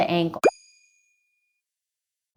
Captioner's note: boop sound